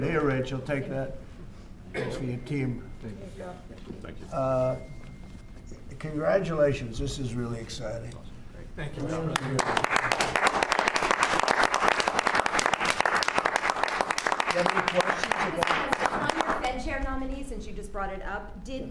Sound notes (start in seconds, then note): 9.3 applause